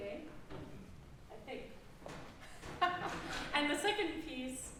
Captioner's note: laughing